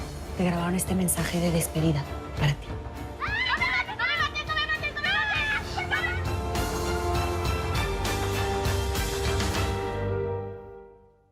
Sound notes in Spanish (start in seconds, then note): 3.1 Gritos de las niñas